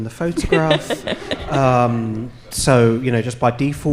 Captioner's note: audience laughing